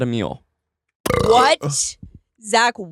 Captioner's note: burping